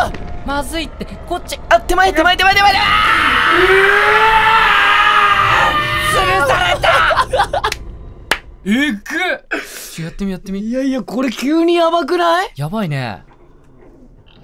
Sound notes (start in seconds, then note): 2.4 slowed screaming; 7.2 cackling and applauding